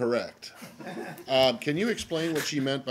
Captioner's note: laughter